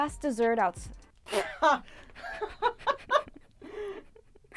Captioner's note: laughing